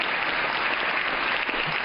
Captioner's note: applause